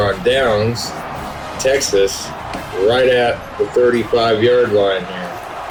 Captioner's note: crowd Noises